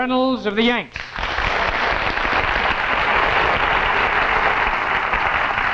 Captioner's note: audience clapping